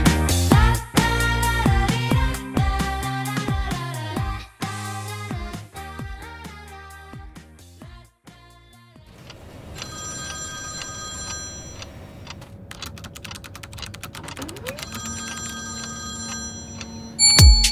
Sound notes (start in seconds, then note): 9.5 telephone ringing; 10.6 clock ticking; 12.2 keyboard keys clicking; 13.9 printer humming; 17.2 upbeat music; 17.5 bell tings